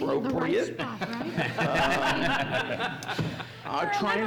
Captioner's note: laughs